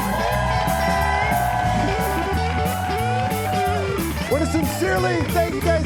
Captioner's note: audience cheering and applauding